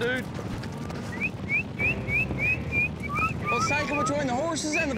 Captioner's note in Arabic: صافرة